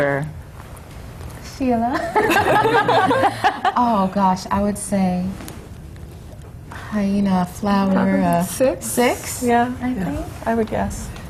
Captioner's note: laughter